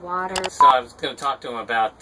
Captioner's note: click and beep